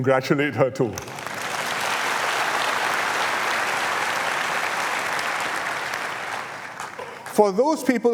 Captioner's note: applause